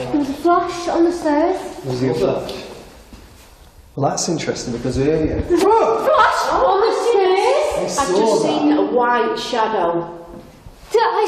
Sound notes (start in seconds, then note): 5.6 shouts